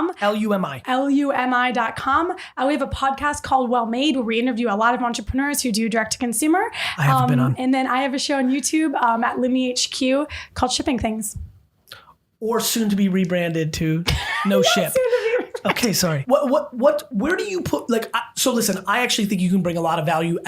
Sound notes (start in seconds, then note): 14.1 laughing